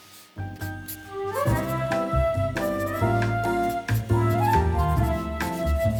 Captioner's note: jazz music; marker scratching